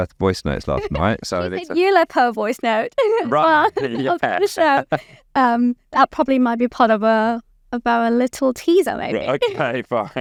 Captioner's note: laughs